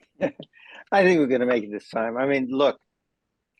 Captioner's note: laugh